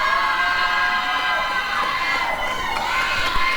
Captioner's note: applause and cheering